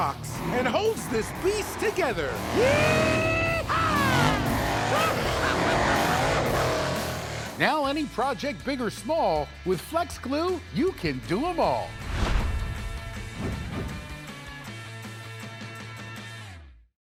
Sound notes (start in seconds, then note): 3.2 engine roaring; 4.4 laughing